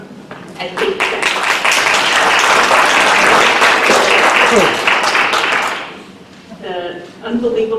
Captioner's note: applause